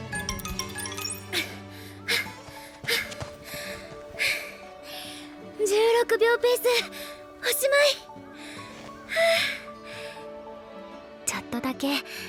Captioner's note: huff; exhale; breath